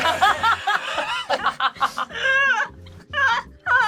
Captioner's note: group laughs